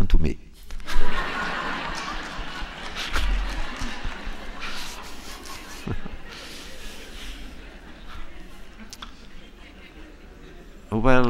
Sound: laughter

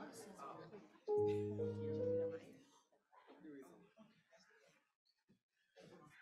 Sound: crowd continues murmuring indistinctly

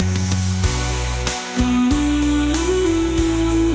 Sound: humming

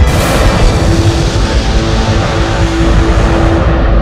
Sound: dramatic blasting

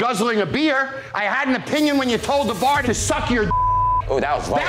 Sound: beep

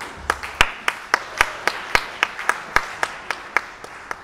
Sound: audience applauding

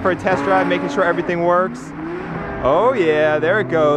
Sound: engine revving

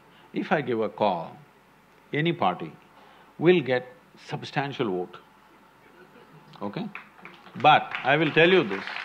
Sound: applause

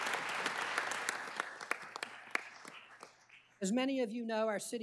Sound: applause

